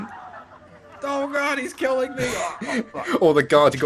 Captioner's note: death sounds